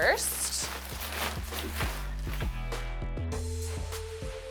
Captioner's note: shower liner crunching